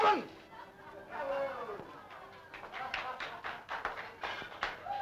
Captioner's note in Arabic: الهتاف والتصفيق